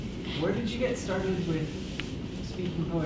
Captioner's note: voiceover